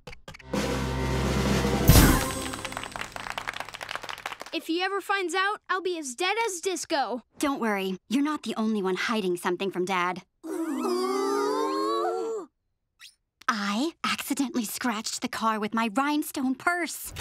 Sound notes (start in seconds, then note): 0.6 drumroll; 2.1 clapping